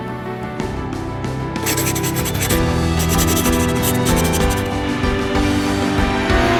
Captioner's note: upbeat music; pencil scribbling